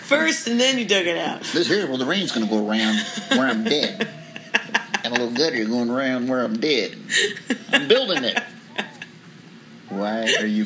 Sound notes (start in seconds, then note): 4.8 female laughs; 9.2 female laughs, dog whines